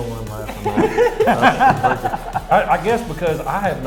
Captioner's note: laughing